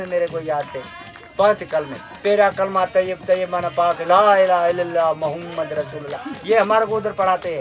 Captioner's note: Arabic